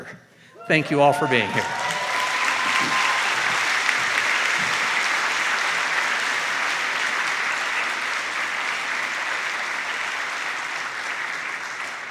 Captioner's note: cheers and applause